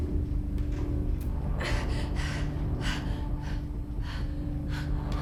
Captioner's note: Belle panting